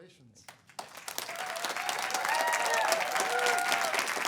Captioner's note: applause